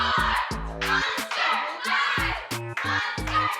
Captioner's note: chanting continues